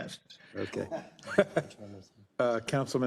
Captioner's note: laugh